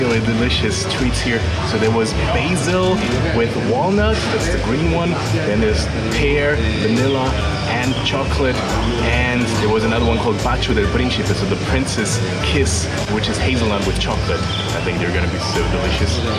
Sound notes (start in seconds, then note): 11.1 speaking foreign language